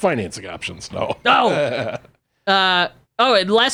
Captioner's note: laughs